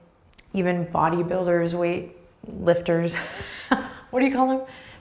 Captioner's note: laughing